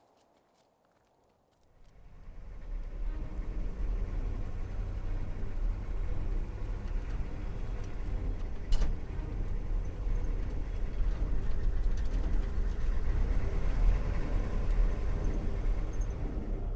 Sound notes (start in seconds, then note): 2.1 engine revving; 2.1 intense music